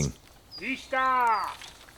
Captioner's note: man speaks Polish